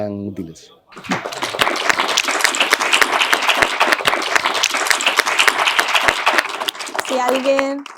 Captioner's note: applause